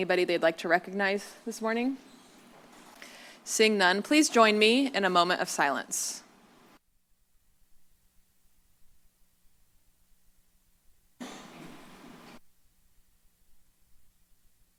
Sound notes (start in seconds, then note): 6.5 silence